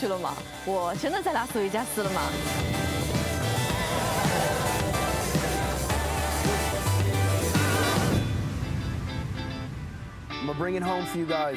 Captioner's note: speaking chinese